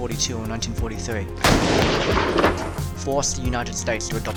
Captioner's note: explosion